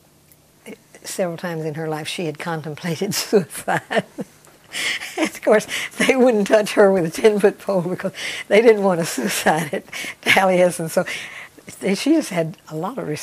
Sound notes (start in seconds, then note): 4.7 laughs